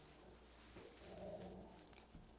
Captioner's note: growling